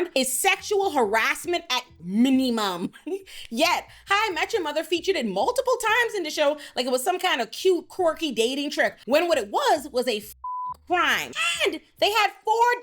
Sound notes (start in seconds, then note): 10.4 beep